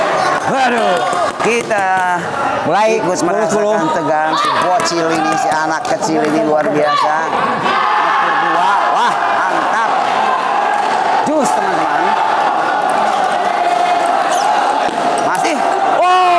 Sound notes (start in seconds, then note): 10.0 applause hands